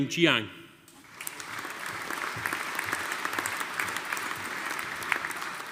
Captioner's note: audience applauding